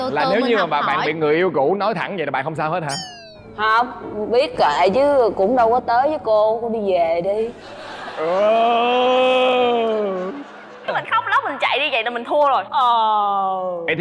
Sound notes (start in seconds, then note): 7.6 laughing